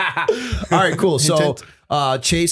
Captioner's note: laughter